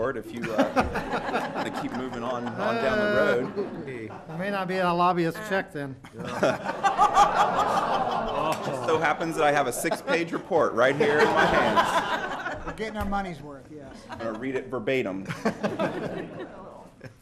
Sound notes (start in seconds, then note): 0.3 laughter; 6.0 laughter; 17.0 laughter